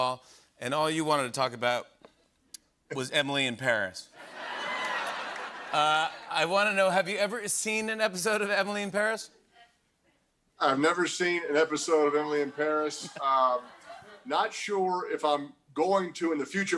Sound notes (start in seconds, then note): 4.2 laughter